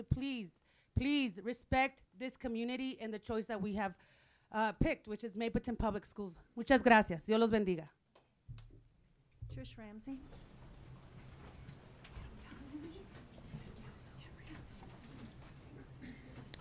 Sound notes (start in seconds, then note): 6.8 speaking in foreign language; 12.2 people chattering